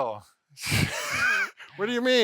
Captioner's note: laughs